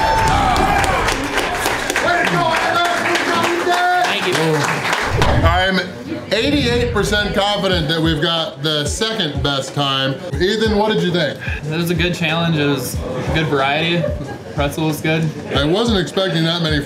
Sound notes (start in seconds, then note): 2.9 crowd